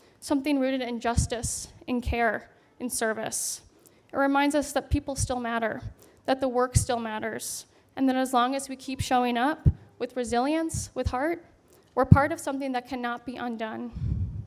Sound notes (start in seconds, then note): none